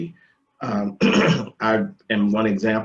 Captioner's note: clears throat